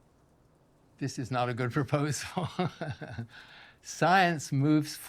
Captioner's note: laughs